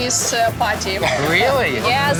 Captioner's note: laughs